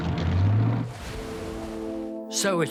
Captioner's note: water splashing